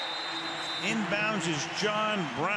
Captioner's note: whistle blows